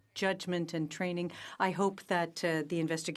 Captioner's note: speaking in French